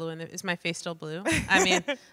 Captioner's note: laughs